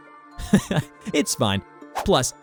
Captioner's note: chuckles